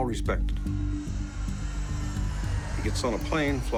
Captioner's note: plane engine roaring